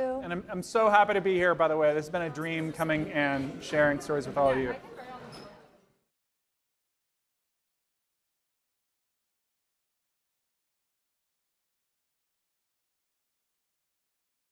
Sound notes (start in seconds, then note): 4.8 crowd chattering